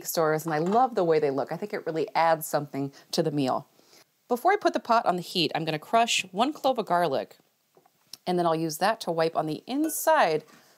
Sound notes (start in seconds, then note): none